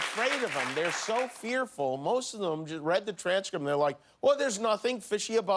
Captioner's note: cheers and applause